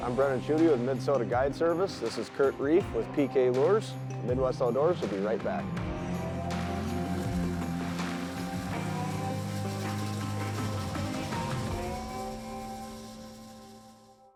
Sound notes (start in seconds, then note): 5.8 engine revs; 6.4 country music